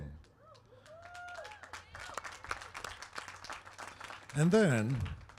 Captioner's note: applause